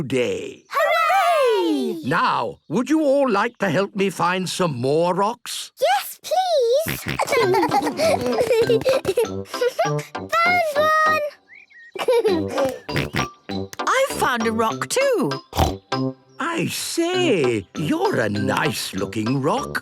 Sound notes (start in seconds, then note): 6.8 giggling; 6.8 snorting and giggling; 11.9 giggling and snorting; 15.5 snorting